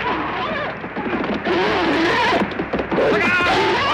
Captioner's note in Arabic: صهيل الحصان